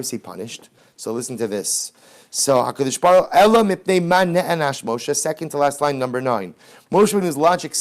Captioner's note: Hebrew